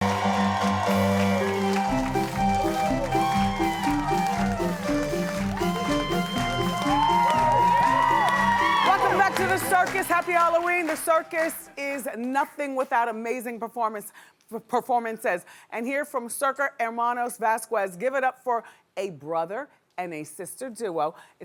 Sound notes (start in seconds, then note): 0.2 upbeat circus music; 6.8 cheering